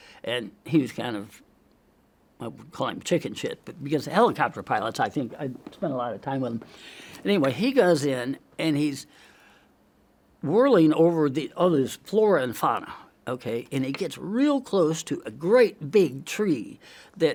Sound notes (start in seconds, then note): 6.6 inhales; 7.0 seat crunching